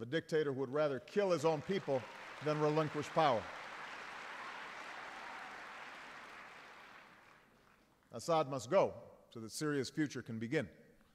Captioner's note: applause